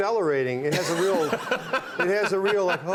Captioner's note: Conan laughing